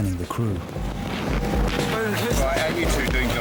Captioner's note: lifeboat engine whirring